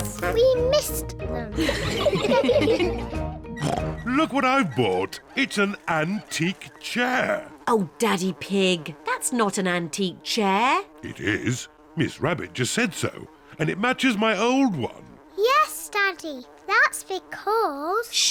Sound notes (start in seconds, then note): 1.6 all laugh; 3.5 oinks; 6.8 flies buzzing